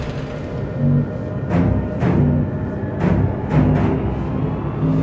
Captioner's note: classic dalek control room noise starts up